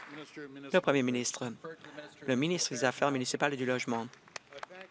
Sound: applause

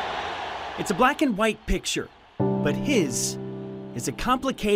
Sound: crowd cheers

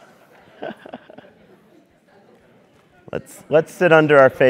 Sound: laugh

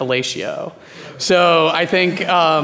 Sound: audience laughing

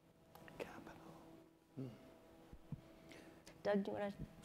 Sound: whispers

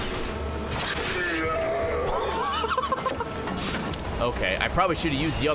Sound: laughs

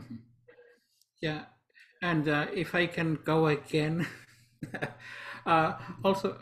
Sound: laughs

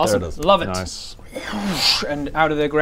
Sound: whooooosch

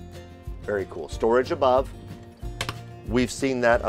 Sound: door clack

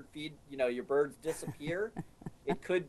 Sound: laughing

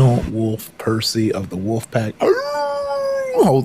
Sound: howls

